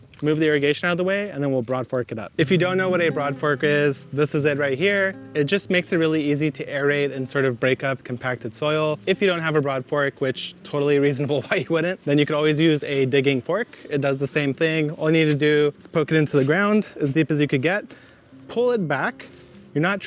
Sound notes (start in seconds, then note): 11.3 laughing